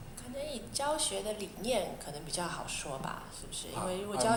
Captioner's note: Mandarin